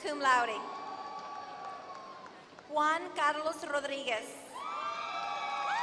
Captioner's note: applause; applause